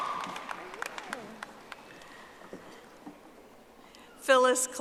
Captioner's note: audience applauding